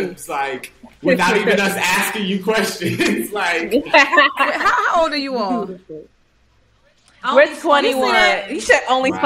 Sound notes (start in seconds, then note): 3.6 all chuckling; 3.6 chuckling